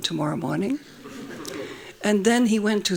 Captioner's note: laughing